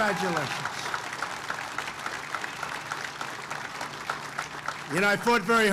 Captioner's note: applause